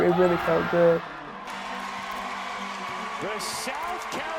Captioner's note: cheering